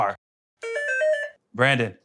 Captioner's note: buzzer